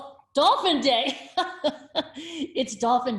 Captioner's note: laughs